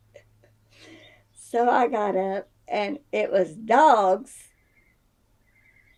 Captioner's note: laughs